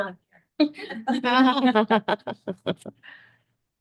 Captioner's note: laughing